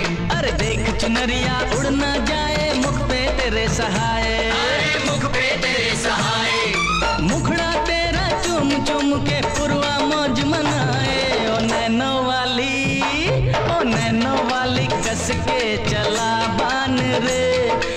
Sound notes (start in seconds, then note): none